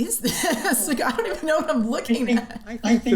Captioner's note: laughter